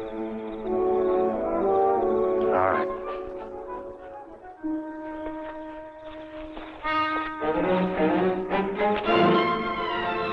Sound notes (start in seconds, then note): 4.8 bushes rustling; 6.6 tense orchestral music